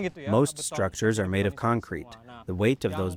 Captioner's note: through translator